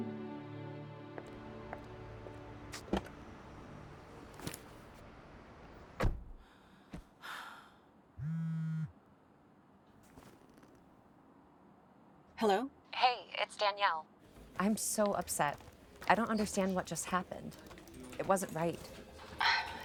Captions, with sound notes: (Hope sighing) (phone buzzing) - Hello. - Hey, it's Danielle. I'm so upset. I don't understand what just happened. It wasn't right.